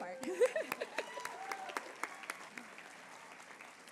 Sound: applause

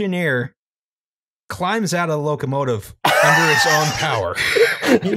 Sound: laughter

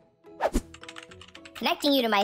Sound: keyboard clicks

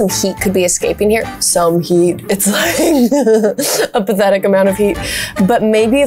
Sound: laughs

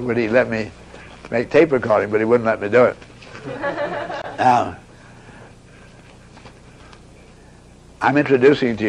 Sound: audience laughs

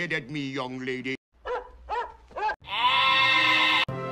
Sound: Max barks again; Sebastian and Flounder bleat like a goat

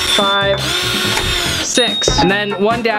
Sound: drill revs

